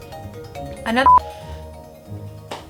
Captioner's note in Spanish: bip